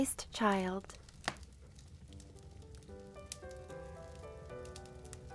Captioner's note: fire crackling